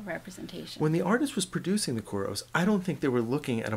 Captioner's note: voiceover